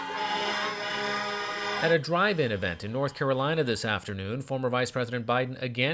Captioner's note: cars honking